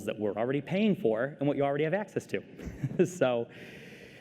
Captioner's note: laughter